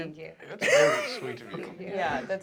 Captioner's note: laughter